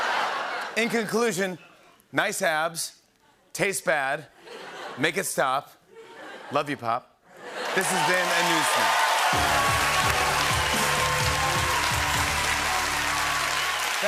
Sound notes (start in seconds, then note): 0.0 laughter; 5.9 laughter; 7.5 cheering and applause